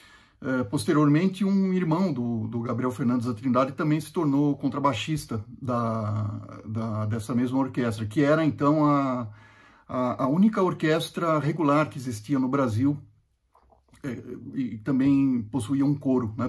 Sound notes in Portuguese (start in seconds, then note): none